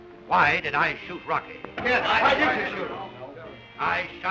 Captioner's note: all shout